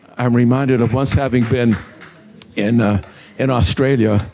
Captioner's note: scattered applause